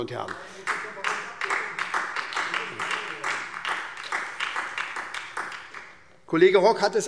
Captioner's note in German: Beifall SPD